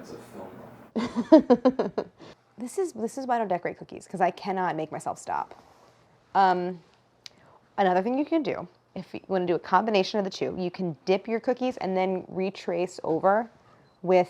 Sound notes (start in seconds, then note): 0.9 laughs